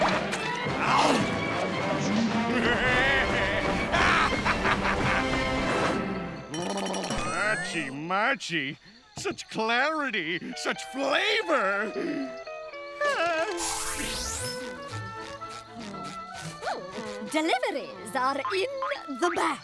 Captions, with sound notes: [laughing] Hachi-machi! Such clarity. Such flavor. [sighs] Oh. Deliveries are in the back.